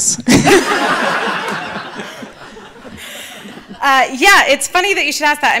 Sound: audience laughing

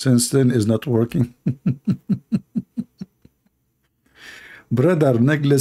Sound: Ketawa

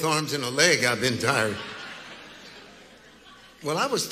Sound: congregation laughing

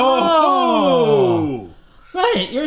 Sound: both exclaims

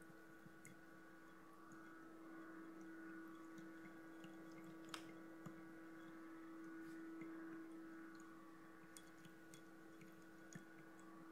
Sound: water Trickling

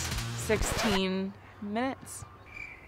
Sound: record scratching

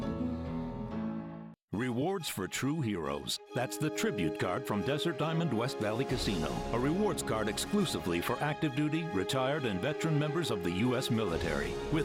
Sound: humming

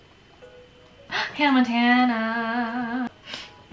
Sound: gasp

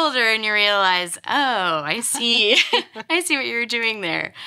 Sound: both laugh

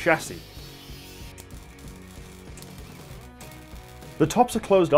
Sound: welding crackle

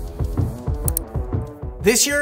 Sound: mouse clicking

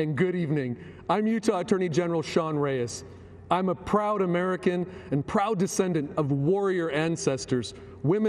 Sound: speaking foreign language

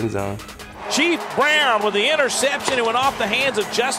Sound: voiceover

